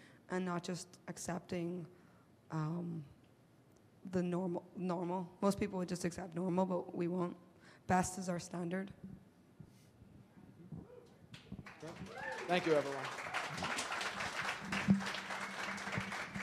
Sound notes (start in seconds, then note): 11.6 audience applauds